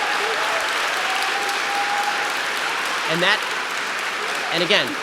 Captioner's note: audience applause